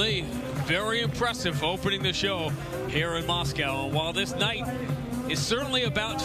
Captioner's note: speaking foreign language